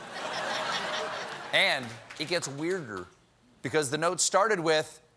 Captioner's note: laughter